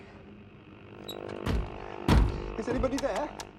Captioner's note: hand thumping; radio static crackling